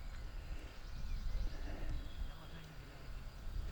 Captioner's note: birdsong